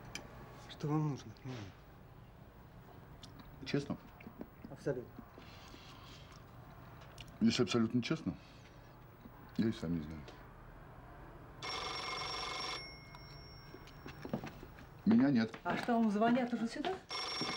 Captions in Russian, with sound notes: Что Вам нужно от меня? Честно? Абсолютно. Если абсолютно честно, я и сам не знаю. [Звонит телефон] Меня нет! А что, Вам звонят уже сюда?!